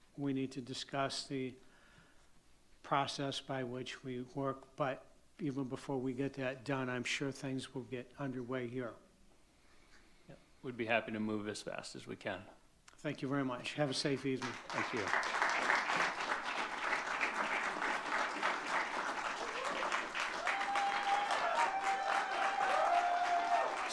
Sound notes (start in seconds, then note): 15.8 audience clapping; 20.4 audience cheering